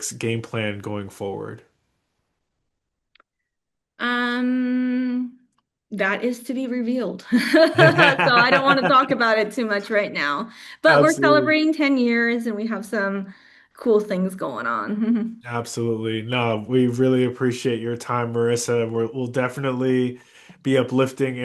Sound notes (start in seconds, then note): 7.5 laughs